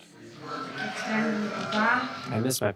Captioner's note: speaking Spanish